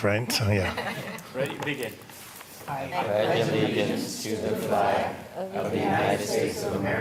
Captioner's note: laughter